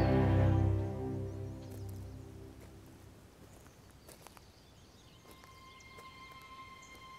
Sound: birds chirping; ground crackling

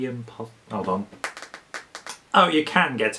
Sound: taps screen

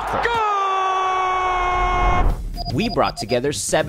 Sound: crowd cheers

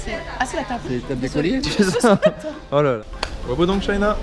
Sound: laughing

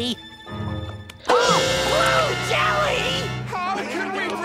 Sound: gasps

